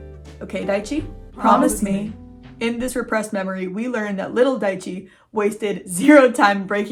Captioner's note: distorted voice